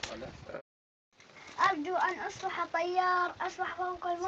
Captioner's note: reciting